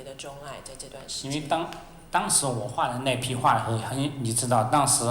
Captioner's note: Mandarin